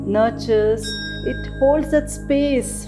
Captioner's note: bell chimes